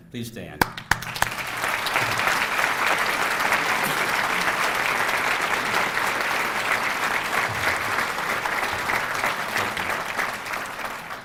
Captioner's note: applause